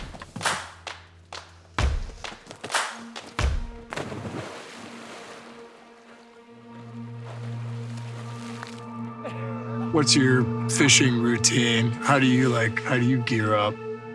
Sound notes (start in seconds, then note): 2.3 gentle music; 3.0 water splashes; 9.2 laughs